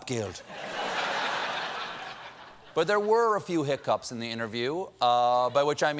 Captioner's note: laughter